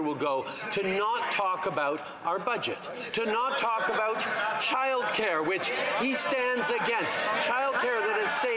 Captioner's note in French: voix de l'interprète